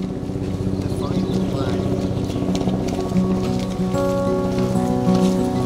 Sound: sound of helicopter above

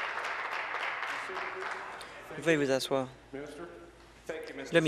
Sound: applause

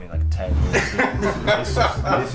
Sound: laughter

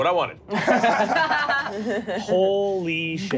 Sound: laughing

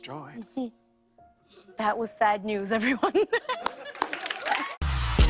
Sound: laughs

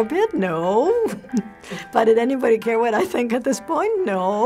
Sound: giggles

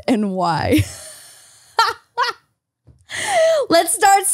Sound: laughs

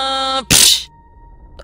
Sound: smack

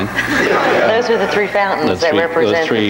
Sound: audience laughs

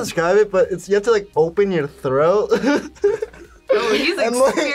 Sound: laughs

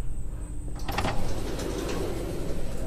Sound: door opens

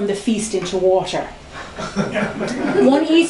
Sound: laughter

